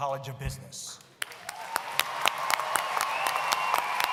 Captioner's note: applause